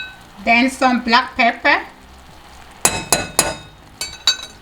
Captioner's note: spoon bangs